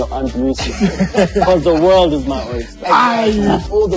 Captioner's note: laughing